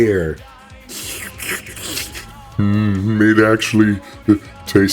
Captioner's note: slurp